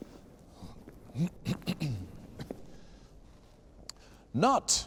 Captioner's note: clears throat